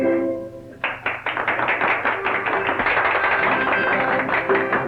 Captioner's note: crowd applauds